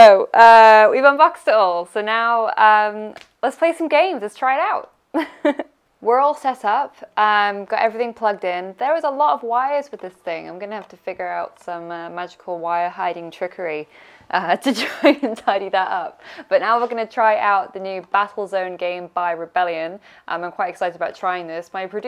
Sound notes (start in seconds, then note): 5.2 laughing; 15.7 laughing